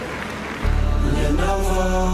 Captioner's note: applause